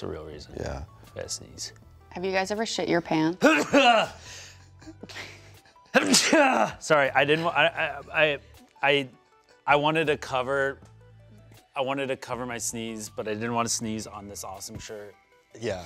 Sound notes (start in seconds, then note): 3.4 laughs; 3.5 sneezing